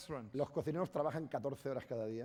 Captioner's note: speaking spanish